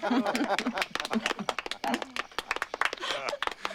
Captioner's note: laughter and applause